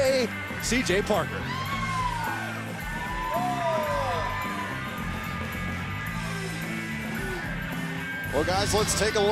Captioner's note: crowd cheering